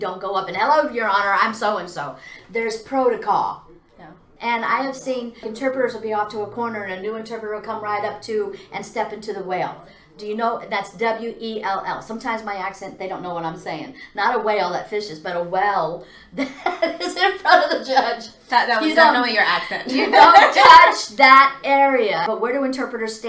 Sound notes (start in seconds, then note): 17.1 laughs